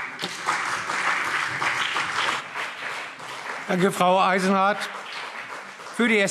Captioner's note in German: Beifall BÜNDNIS 90/DIE GRÜNEN und CDU